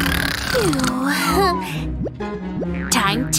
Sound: snoring

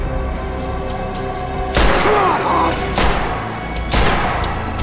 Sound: gunshots

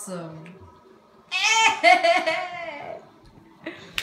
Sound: dying Goat Noises

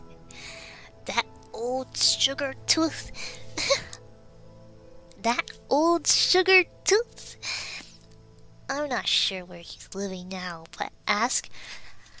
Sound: laughs

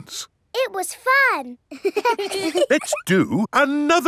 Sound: children laughing

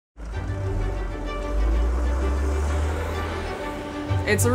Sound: bus engines roar; inspiring classical music

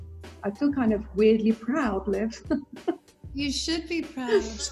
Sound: laughs

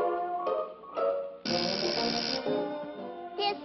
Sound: doorbell rings

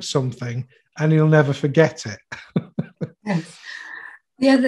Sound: chuckles

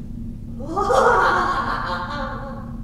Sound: sinister laughter

